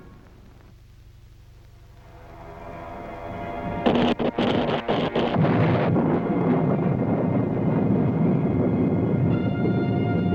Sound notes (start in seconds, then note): 3.9 thunder booms